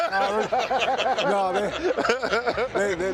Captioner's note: laughs